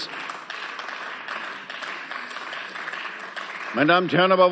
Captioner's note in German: Beifall